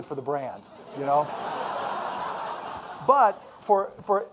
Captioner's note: audience laughing